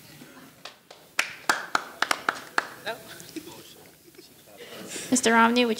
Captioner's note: audience lightly applauding